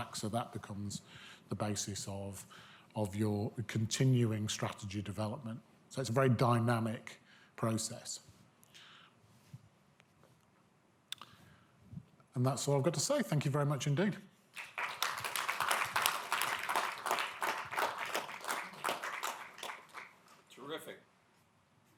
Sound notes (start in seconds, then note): 14.5 audience applauding